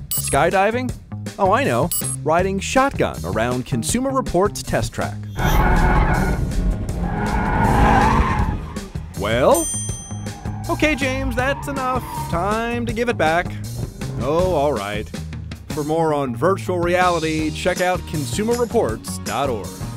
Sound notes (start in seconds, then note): 5.3 tires squealing